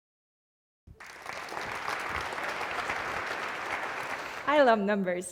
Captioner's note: applause